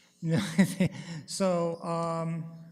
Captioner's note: chuckles